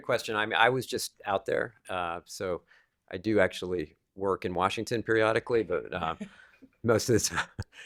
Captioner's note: laughter